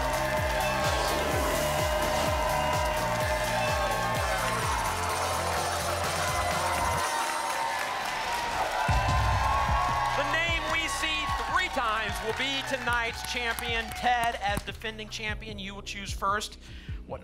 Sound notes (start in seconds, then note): 0.7 whoosh; 1.6 applause and cheering cont